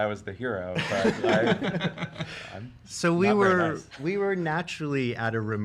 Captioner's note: laughs